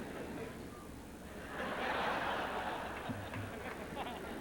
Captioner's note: audience chuckles